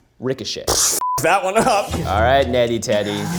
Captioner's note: beeps